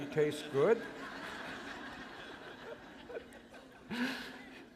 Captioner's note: laughter